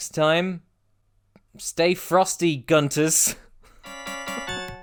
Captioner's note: chuckling; outro music